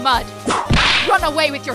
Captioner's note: whip crack!